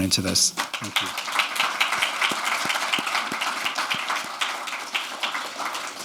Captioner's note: audience clapping